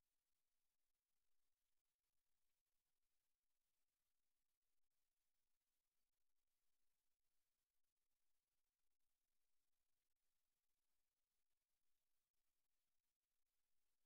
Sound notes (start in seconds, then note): none